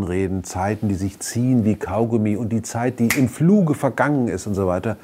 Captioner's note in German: Schnipsen